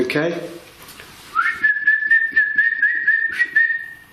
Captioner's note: whistling